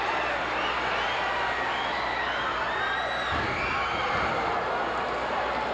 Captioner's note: audience cheering continues